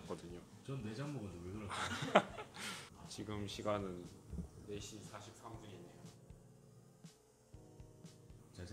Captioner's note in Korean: 웃음